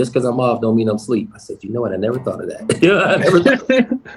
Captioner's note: laughing